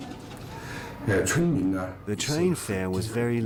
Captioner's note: speaking in foreign language